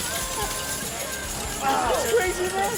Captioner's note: coins dropping